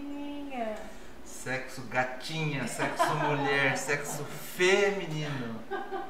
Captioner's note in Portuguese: risos